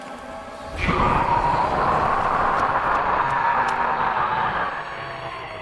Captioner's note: demonic scream